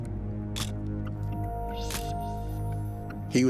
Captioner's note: camera shutter click